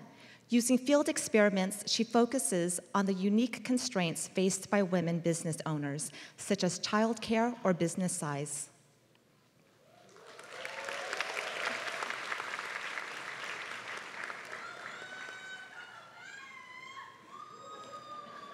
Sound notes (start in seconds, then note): 10.0 applause